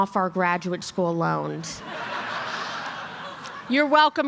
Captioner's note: laughter